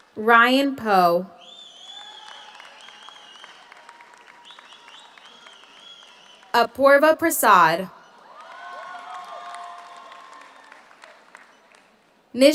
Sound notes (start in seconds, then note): 0.0 audience applauds; 0.0 audience cheers; 1.4 audience whistles; 1.5 audience applauds; 8.0 audience cheers; 8.0 audience applauds